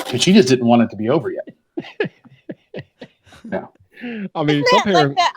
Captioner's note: laughing